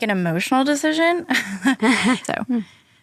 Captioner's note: chuckles